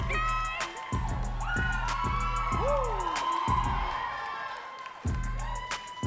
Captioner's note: audience cheering and clapping